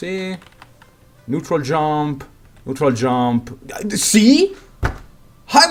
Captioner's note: table slam